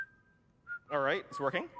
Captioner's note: whistle